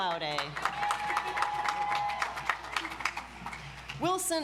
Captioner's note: audience applauds